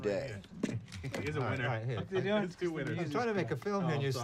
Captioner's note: indistinct chatter